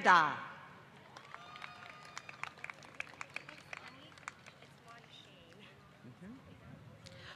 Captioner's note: applause